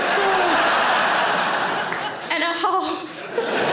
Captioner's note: audience laughing